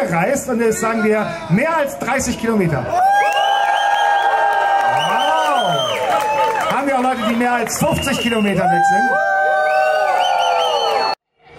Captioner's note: cheers